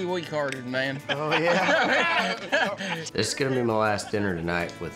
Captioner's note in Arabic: الجميع يضحكون